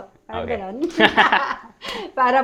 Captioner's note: laughs